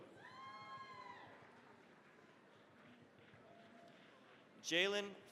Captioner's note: cheering, applause